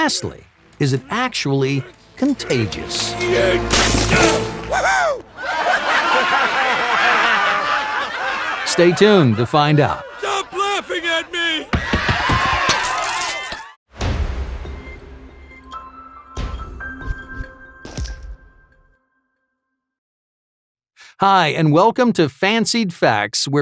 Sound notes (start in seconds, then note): 6.9 laughing crowd sound; 11.4 screaming sounds